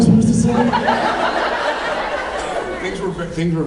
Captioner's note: laughs